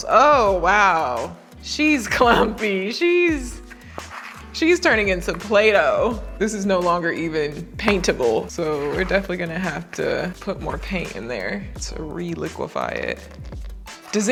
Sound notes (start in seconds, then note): 3.5 knife and bowl rattling